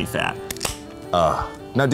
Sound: can opening

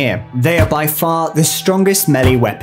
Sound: ax chops

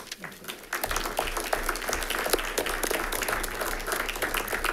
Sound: audience applauds

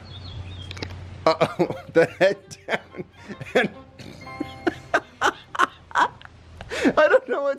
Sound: laughing

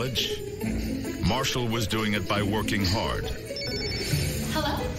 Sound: phone ringing

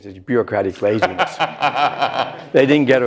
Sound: laughter

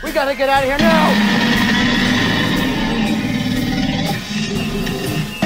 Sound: tyrannosaurus roaring

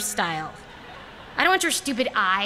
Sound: laughter

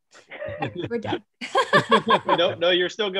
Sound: she laughs

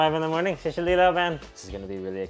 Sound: speaks in foreign language

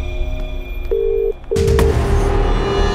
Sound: line ringing

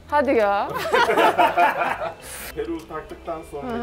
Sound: laughs

